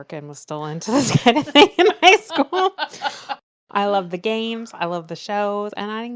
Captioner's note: laughs